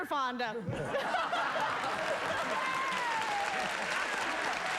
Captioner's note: laughter and applause